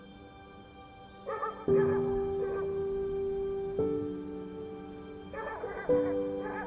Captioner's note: dog barking